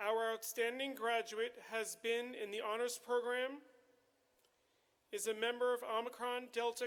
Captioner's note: none